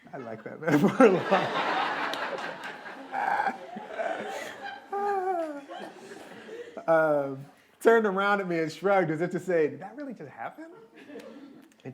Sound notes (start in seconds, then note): 1.8 laughter